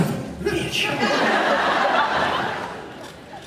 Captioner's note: laughs